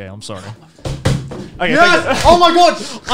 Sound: hits table

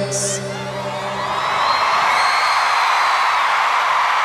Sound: cheers and applause

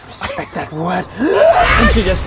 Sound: hyaargh!

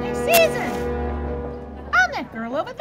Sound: match strike

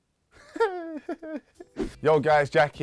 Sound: laughing

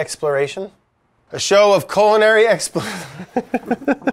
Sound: laughs

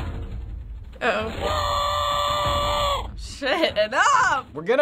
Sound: in game: infuriated scream

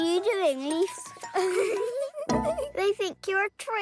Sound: giggling

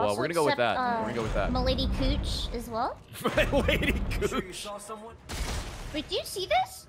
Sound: laughs

